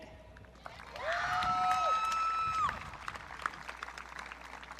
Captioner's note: audience cheering